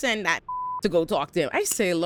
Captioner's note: beep